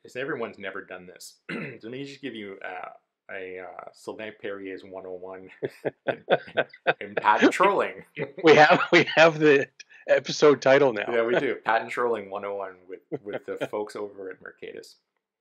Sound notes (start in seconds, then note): 5.0 laughs